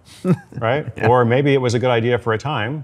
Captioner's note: laughs